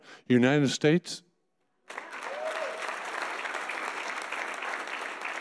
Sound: audience applauding

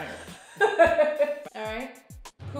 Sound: laughter

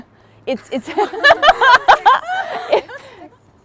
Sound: laughter

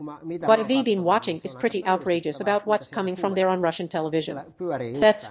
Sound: on Russian television

